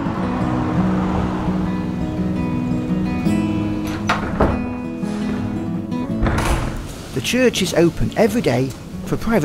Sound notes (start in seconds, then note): 3.6 sound of door opening; 6.0 sound of door closing